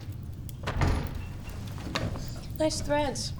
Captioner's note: door thudding